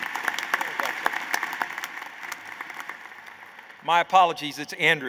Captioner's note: applause